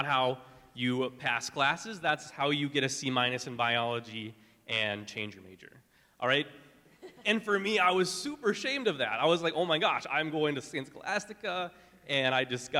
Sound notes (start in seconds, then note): 6.9 laughing